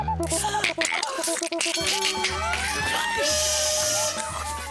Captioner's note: bells ringing and alarm blaring